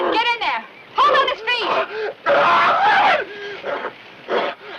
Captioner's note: Eddie screams